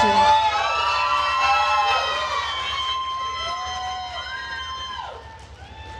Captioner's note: attendees cheering and applauding